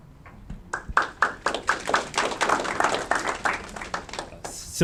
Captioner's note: audience clapping